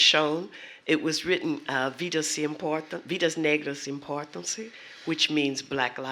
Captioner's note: speaking portuguese